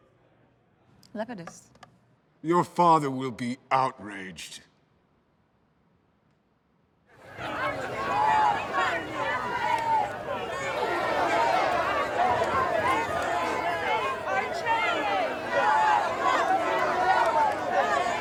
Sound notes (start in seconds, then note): 7.4 indistinct shouting